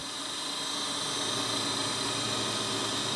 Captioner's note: whirring